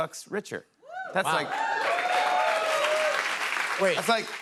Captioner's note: cheers and applause